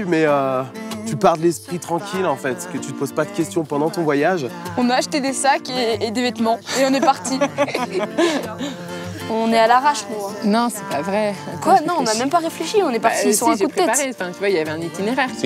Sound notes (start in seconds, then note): 11.1 she laughs